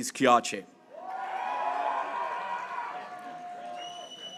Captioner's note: graduates cheering